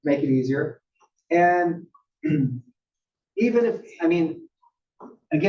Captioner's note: cough